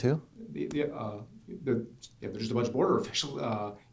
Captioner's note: voiceover